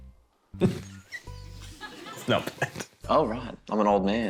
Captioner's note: laughs